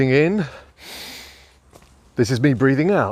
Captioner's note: inhaling